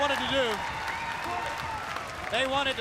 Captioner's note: crowd cheering